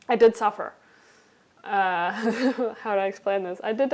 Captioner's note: laughing